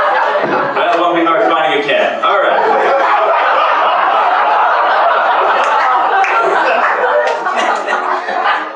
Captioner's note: applause; laugher